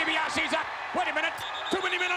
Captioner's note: referee whistling